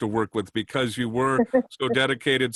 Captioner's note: laughter